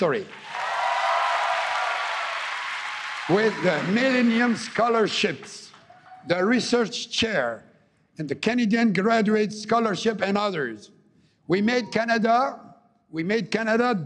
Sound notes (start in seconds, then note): 4.2 applause